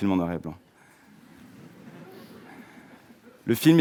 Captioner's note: audience laughing